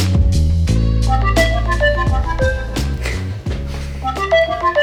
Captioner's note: phone chiming